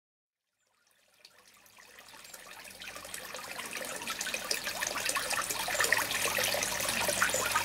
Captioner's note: trickling water